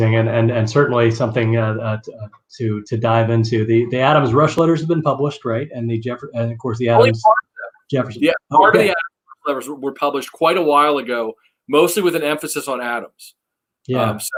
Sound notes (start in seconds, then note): 8.1 murmuring